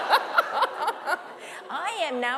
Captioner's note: laughter